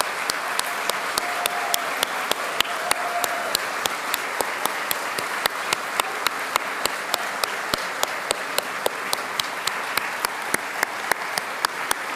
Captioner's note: applause